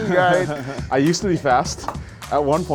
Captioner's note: laughs